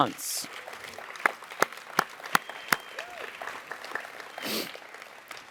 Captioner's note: audience applauds